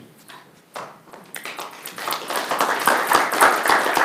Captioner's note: applause